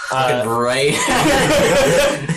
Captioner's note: all laugh